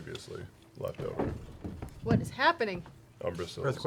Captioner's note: thumps